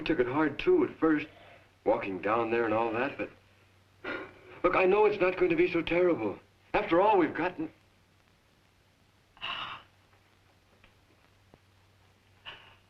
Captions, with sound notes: We took it hard too at first, walking down there and all that, but look, I know it's not going to be so terrible. After all, we've gotten... (Lauri sobs)